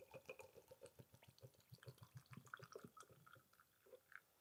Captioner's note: vinegar splashing